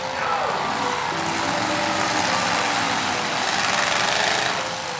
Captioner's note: engines revving